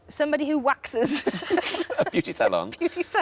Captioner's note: Sarah and Tom laughing